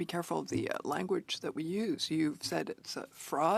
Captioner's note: speaking French